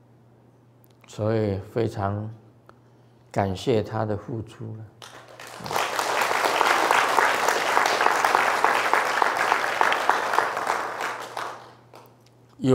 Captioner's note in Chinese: 眾鼓掌